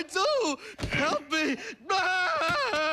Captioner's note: screams